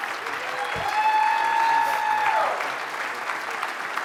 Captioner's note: audience applauds